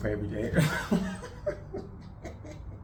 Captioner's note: laughs